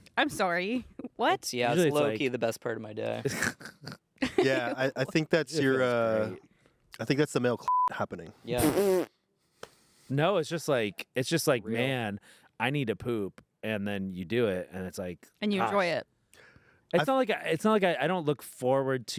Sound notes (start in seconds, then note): 4.2 everyone laughs; 7.6 beep